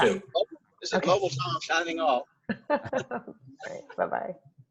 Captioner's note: laughs